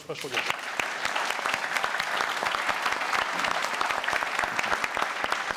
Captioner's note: applause